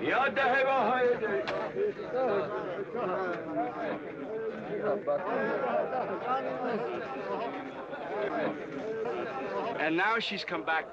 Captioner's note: crowd; crowd chattering